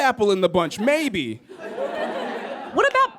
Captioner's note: audience laughs